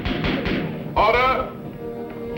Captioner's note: gavel pounding